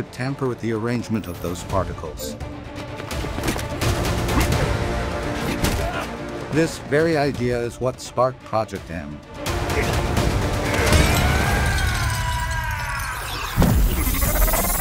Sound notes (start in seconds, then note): 10.6 screaming